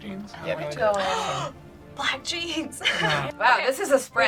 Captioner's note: gasps; laughs